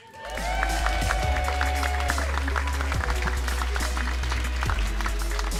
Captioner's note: cheers and applause